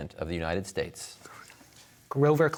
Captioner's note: whispers